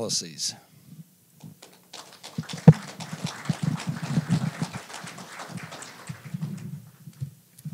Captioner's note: applause